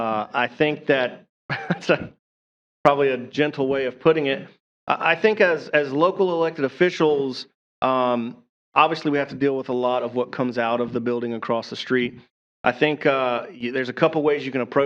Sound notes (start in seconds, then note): 1.5 laughter